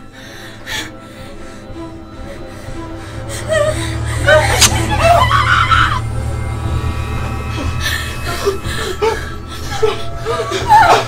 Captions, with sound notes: (screaming) - No, no, no, no, Cindy!